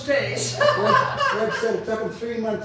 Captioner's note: laughs